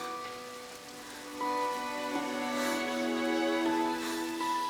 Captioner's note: leaves rustling